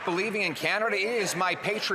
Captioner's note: some Applause